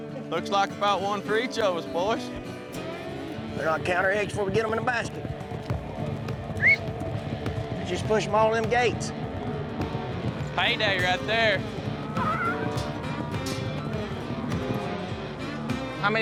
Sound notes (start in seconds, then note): 6.5 whistles